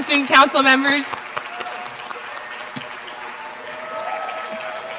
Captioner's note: applause